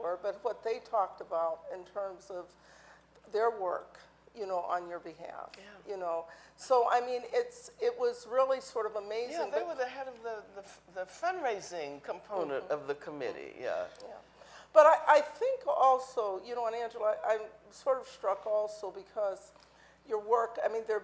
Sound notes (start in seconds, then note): none